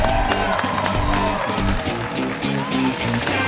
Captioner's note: cheers and applause